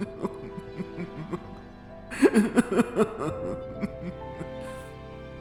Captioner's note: sobbing